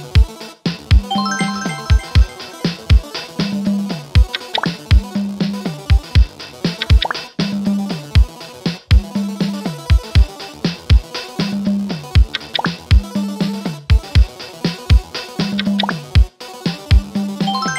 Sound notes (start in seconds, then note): 1.1 point earned sound